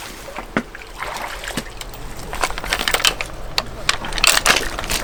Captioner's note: chains rattle